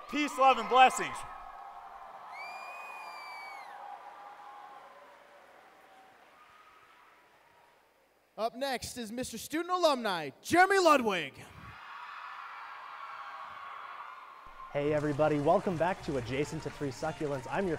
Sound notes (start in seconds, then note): 2.3 whistling; 11.6 cheering